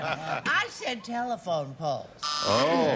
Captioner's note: laughter